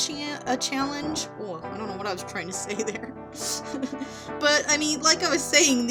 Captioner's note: giggles